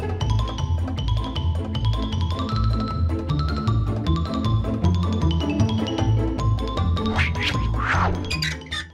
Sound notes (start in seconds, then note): 0.0 whimsical music; 7.1 whooshing; 7.2 hinge creaking